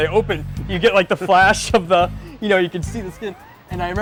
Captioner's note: laughter